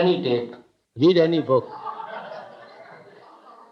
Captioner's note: laughter